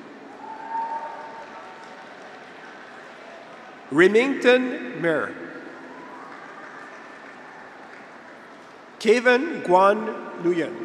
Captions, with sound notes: (graduates cheer) (audience applauds) Remington Myhre. (graduates cheer) (audience applauds) Kevin Quan Nguyen.